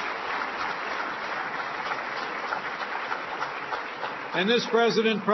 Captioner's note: applause